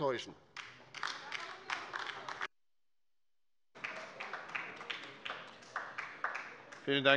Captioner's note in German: Beifall bei der LINKEN